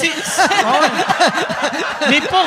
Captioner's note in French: rires